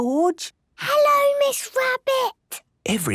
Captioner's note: whispering